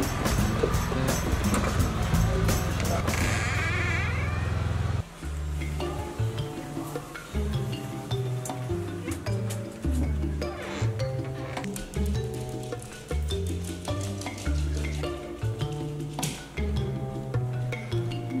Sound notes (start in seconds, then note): 3.0 door creaking; 6.1 gentle music